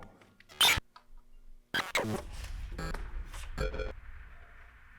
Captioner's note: static crackling